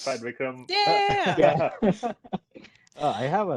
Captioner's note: laughter